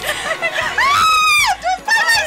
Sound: screaming

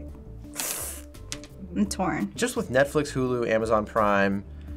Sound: sucks in breath

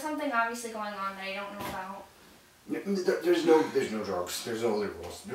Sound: stammers

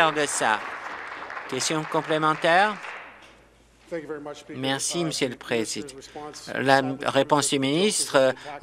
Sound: applause

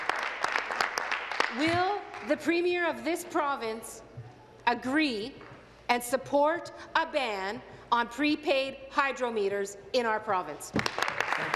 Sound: applause

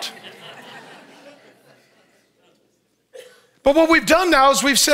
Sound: audience laughs

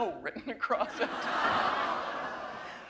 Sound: laughter

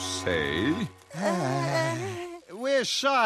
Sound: nervous whimpers

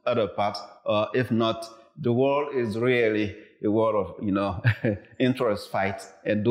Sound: laughs

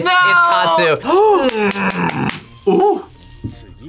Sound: gasps

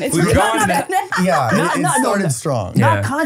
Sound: laughing

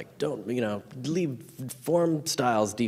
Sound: stammering mockingly

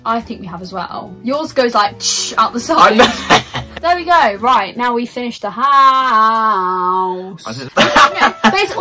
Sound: laughs

